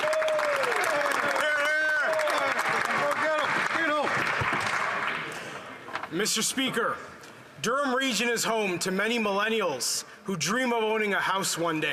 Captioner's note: some Applause